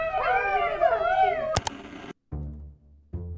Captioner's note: Goobalings rabblerousing; KA-CHUNK of changing the channel on a 1970s TV & static